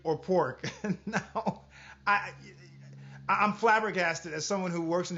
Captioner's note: laughs